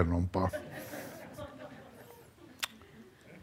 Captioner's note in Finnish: yleisö nauraa